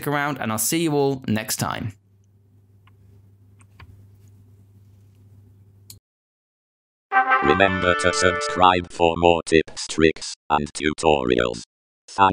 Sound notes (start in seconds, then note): 7.1 trumpet fanfare; 7.6 electronic voice